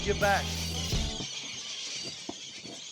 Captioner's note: birds screeching, feeding